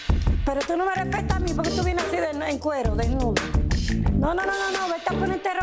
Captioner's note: mother speaking foreign language; speaks foreign language